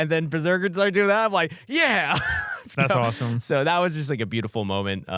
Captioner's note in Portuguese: risos